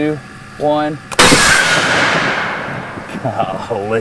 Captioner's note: cannon fires